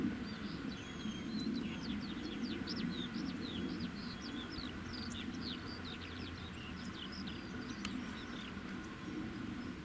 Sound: birdsong

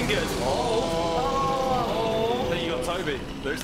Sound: groaning

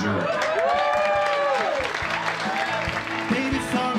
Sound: cheers and applause

